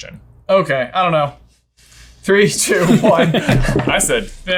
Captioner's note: laughing